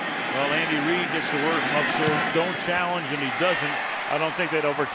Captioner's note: cheering